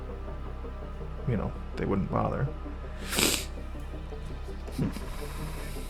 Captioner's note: sniff